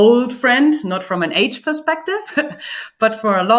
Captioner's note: laughs